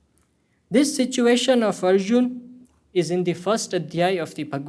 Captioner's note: hindi